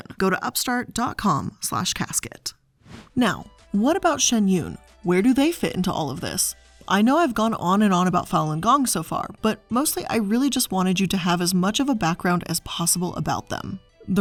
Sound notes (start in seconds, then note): 2.8 air whooshing